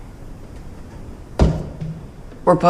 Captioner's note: knock